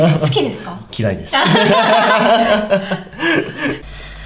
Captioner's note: laughs